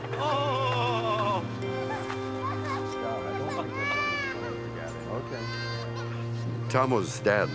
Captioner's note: crying